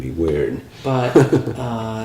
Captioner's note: chuckles